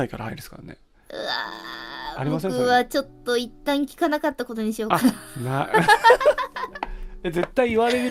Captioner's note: both laughs